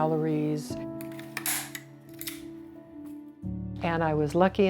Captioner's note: staple gun clacks